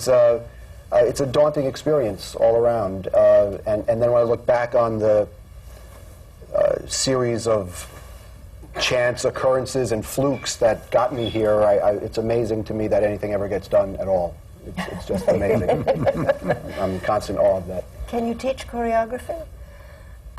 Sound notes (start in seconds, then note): 14.8 laughter